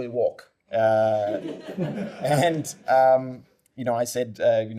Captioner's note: laughter